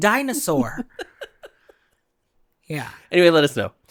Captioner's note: laughs